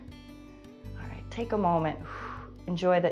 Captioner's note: exhales